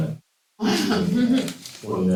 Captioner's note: laughter